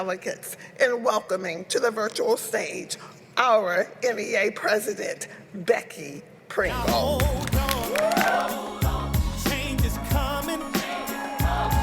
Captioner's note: applause